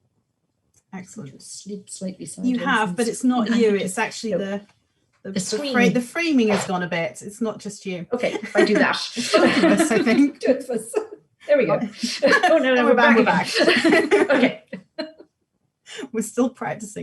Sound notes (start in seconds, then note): 11.2 both laughing; 15.9 laughs